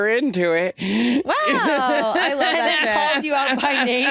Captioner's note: Jinkx laughing